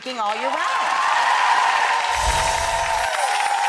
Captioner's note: cheers